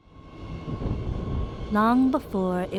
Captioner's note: train rumbles